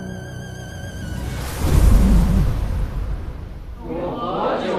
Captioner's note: sandstorm